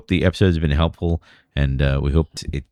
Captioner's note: uh